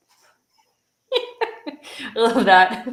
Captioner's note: laughter